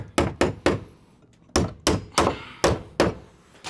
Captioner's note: hammering